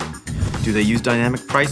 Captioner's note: air whooshing